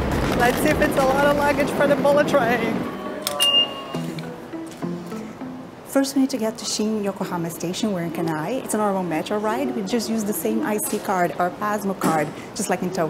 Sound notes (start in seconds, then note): 2.8 beeps